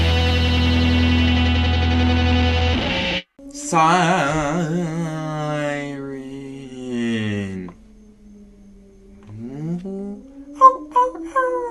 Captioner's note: siren in background